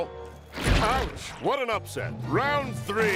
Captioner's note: splat